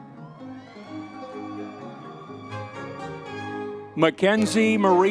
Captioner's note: audience members cheering